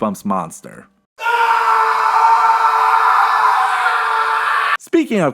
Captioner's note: screaming